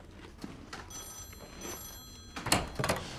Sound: munching

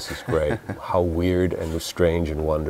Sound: laughs

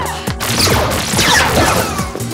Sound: laser shooting; grunting

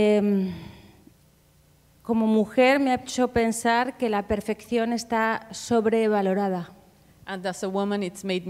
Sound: speaking Spanish

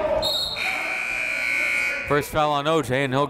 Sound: whistle; buzzer

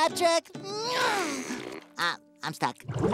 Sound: grunting

